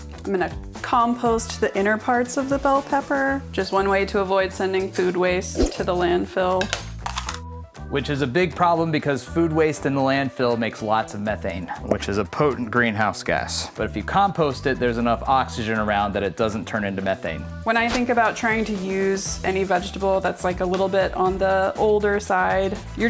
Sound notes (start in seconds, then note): 6.7 pepper crunching